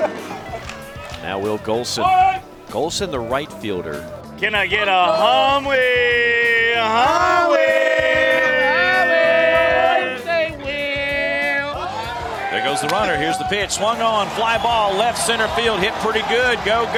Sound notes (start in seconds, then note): 5.8 chanting; 6.4 chanting together